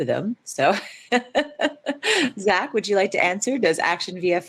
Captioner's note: laughs